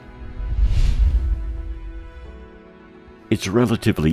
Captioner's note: gentle music continues; air whooshing